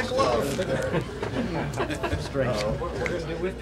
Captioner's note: laughter